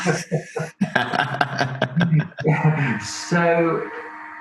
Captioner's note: both laugh